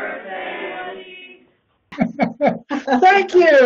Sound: laughter

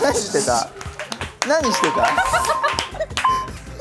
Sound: haha

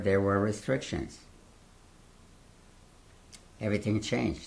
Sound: pauses for 3 seconds

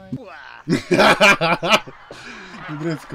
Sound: devil laugh

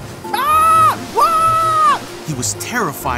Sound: Peter screaming

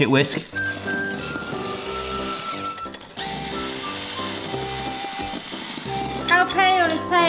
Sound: christmas music; whisk buzzes

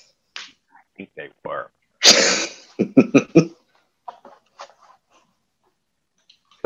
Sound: laughing

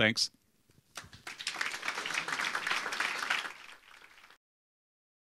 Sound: audience applauding

